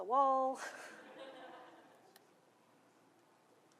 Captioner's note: laughter